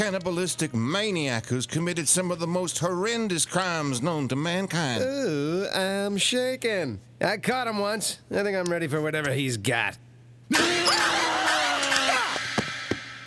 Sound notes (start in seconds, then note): 4.9 sarcastically; 10.5 screaming; 10.5 screams